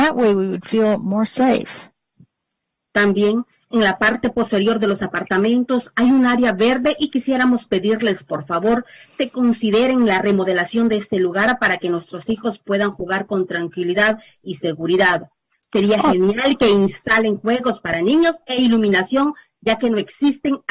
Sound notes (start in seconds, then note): 6.8 speaking spanish